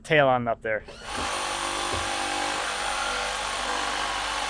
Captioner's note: machinery revs